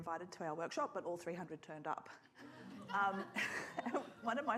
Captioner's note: audience laughs; chuckles